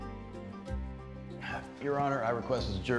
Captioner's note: sighs